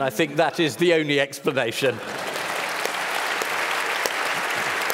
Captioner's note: applause